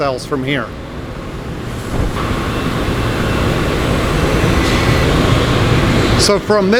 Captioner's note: machine whirring sound